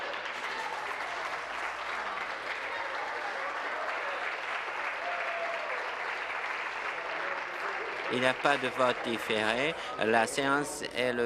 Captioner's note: applause